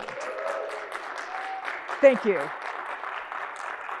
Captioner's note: audience cheers